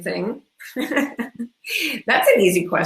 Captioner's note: laughs